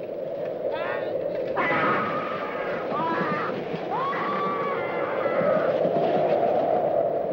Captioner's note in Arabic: تهب الرياح; موسيقى درامية; تهب الرياح; يصرخ الجندي; تهب رياح شديدة